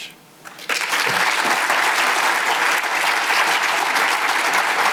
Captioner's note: audience applause